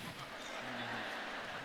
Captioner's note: laughter